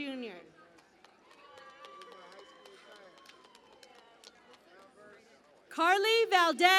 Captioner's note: cheering and Applause